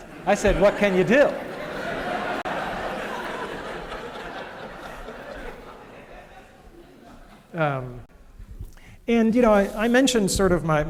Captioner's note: laughter